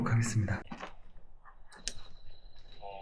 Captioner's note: the sound of a radio